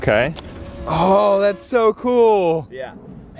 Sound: machine whirring

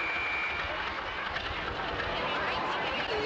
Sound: whistle blows; engine chugging

